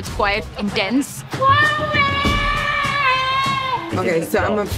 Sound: screaming

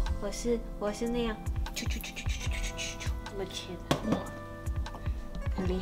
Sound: choo choo choo choo

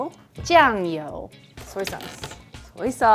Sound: speaking in mandarin

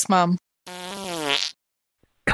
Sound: passing wind

